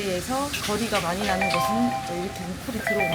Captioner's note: delivery notification pings